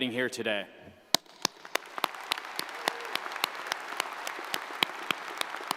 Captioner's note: audience applauds